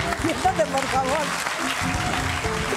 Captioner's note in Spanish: Suenan aplausos